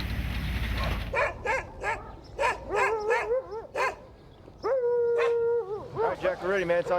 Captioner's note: dogs barking